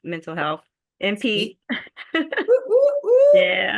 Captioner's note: laughing